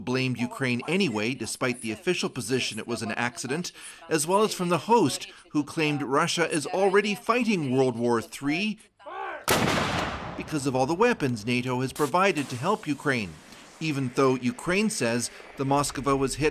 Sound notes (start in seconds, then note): 0.1 speaking Foreign Language